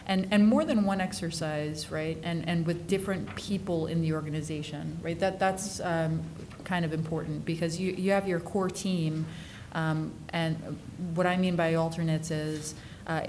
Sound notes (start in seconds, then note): none